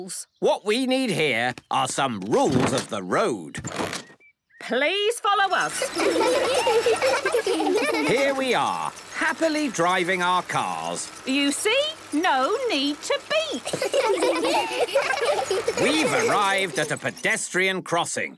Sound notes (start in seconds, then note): 5.6 laughter; 13.6 laughter